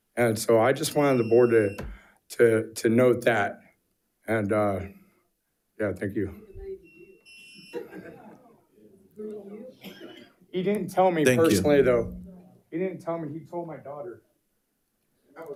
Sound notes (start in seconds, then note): 6.8 timer beeps